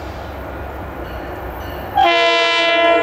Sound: bell

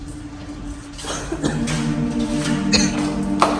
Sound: coughing more and more

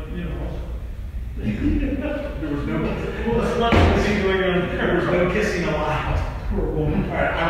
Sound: laughing

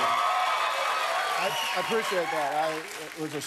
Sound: cheers and applause

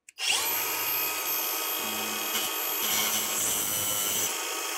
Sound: grinder whirring

